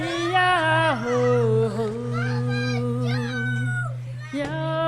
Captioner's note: screaming; singing in a foreign language